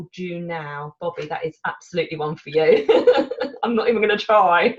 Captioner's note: laughs